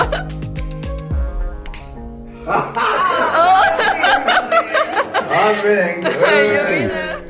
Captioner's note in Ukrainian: сміх